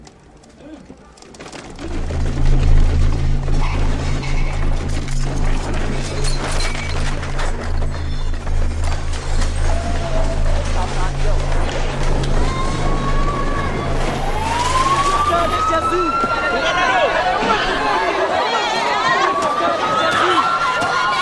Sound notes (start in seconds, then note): 6.2 crashing; 12.5 crying; 14.5 sirens wailing; 17.0 sirens blaring; 17.0 yelling